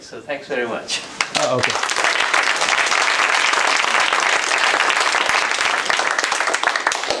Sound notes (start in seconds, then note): 1.2 applause